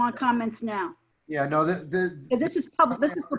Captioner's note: members chattering